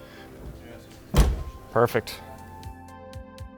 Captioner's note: door clicks